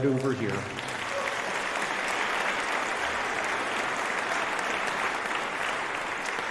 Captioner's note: applause